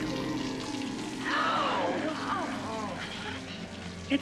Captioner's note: gasping